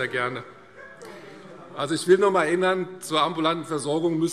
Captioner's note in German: Lachen SPD und DIE LINKE